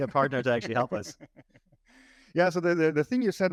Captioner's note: laughs